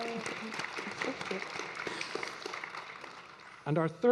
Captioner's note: audience clapping